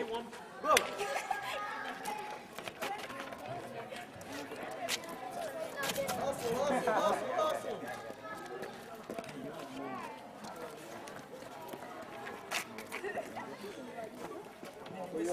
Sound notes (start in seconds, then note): 0.0 clapping; 1.7 hand clap, speaking in Kreyol